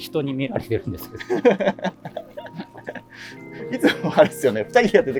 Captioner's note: laughing